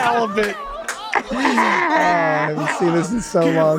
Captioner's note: all laughing softly